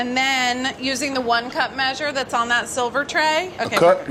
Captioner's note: none